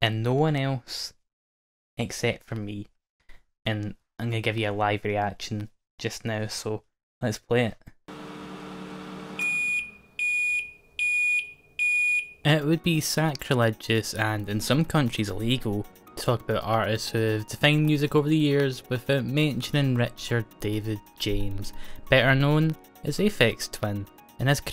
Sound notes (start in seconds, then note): 8.1 microwave beeping